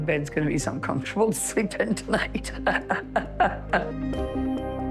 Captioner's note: laughing